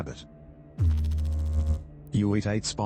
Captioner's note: electrical noise